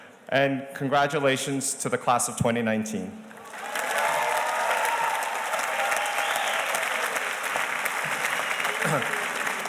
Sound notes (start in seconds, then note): 3.4 audience cheers and applauds